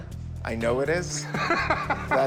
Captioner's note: laughs